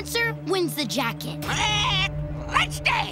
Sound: squawking

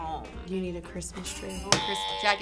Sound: bells jingling; incorrect buzzer

